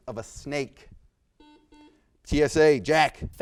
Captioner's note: buzzer beeps